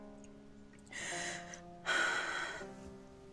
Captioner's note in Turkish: Nefes sesi